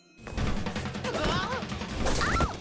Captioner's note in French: glapit